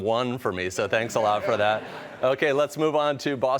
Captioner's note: laughter